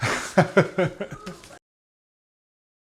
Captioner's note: laughs